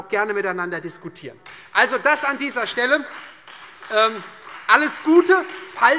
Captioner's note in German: Beifall Freie Demokraten